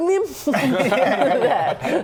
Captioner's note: pocket dialing laughter